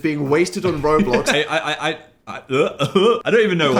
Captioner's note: goofy laugh